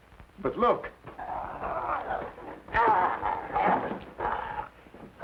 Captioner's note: wolfman snarling